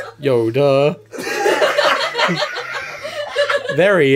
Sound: laughter

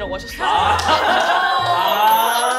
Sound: laughing

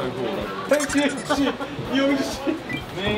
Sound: Hong-jo laughing

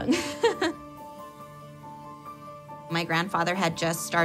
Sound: laughs

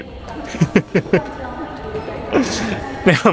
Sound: chuckles

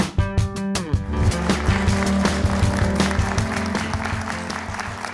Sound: applause

